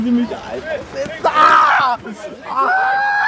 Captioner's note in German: Der Aktivist schreit